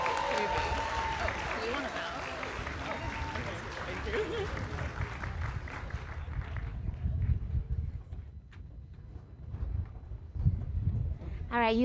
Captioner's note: cheers and applause